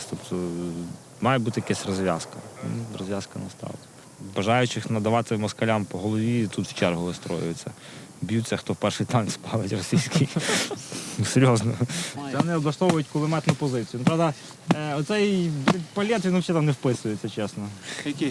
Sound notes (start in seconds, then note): 9.2 laughing